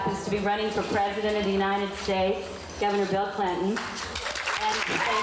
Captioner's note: cheers